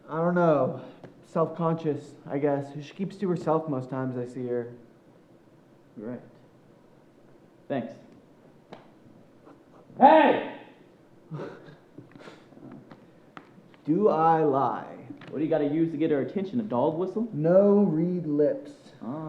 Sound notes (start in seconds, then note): 11.2 chuckles